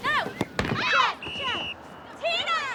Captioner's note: whistle blows